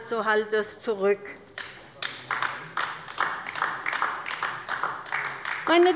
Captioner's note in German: Beifall bei der LINKEN